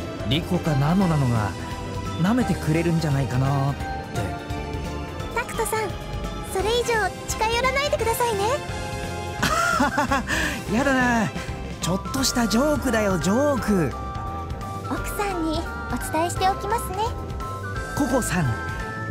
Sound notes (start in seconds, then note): 9.4 laugh